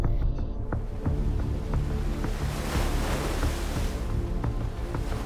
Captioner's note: water splashes